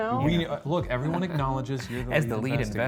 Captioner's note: chuckling